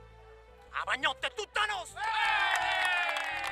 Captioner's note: exultation